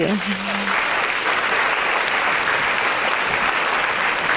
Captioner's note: audience clapping